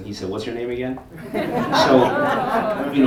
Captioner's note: audience laughter